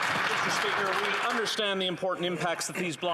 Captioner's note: applause